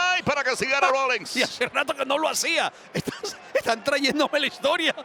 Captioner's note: laugh